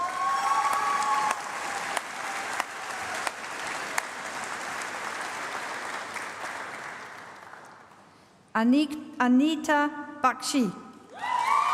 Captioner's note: applause